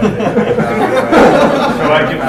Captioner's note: laughter